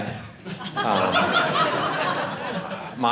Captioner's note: audience laughing